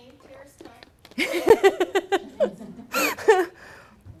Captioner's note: laughs